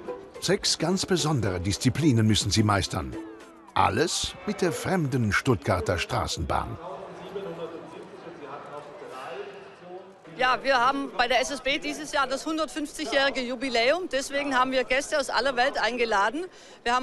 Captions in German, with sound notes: Sechs ganz besondere Disziplinen müssen sie meistern. Alles mit der fremden Stuttgarter Straßenbahn. (Lautsprecherdurchsage) Ja, wir haben bei der SSB dieses Jahr das 150-jährige Jubiläum. Deswegen haben wir Gäste aus aller Welt eingeladen.